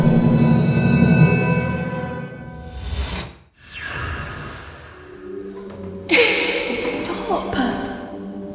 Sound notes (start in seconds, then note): 0.1 tense music; 6.1 Andromeda laughs